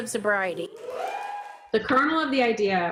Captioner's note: audience cheering